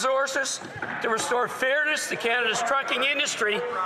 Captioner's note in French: voix de l'interprète